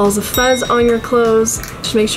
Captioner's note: bell dinging